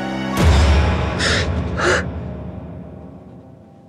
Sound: gasps

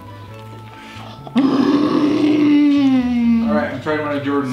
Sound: sounds of delight

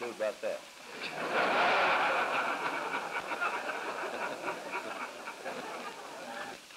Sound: laughter

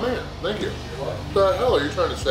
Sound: audience mumbles

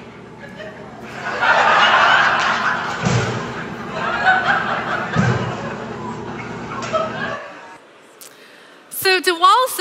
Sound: laughing

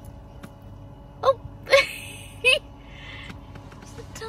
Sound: giggles

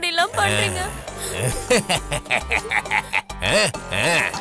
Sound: laughs

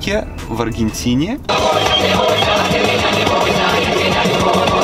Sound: car radio playing

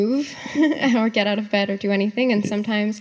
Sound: laughs

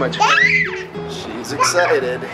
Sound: excited scream

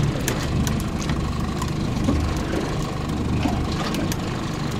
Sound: reel ticking

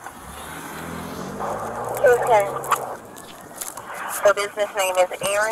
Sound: car engine roaring

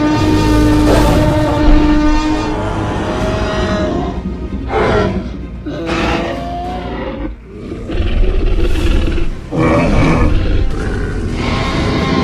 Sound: roaring and wailing

